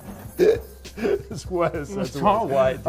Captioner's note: laughs